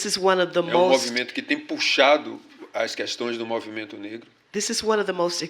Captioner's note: speaking portuguese